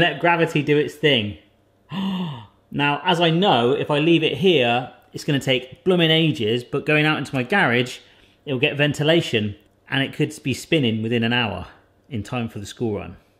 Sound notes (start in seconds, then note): 1.8 gasping